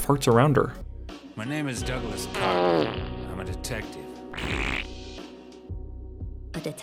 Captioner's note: farts